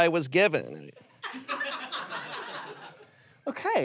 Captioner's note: audience laughs